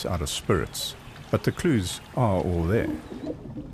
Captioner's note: animals calling